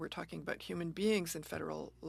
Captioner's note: speaking French